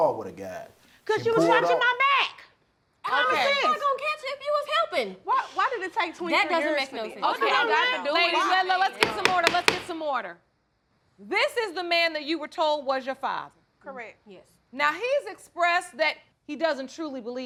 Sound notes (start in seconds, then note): 8.9 gavel pounding